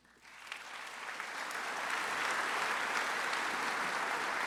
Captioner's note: audience applauds